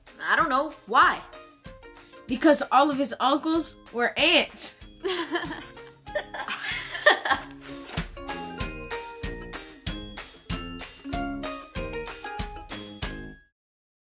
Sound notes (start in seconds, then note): 6.1 laughing; 8.0 playful music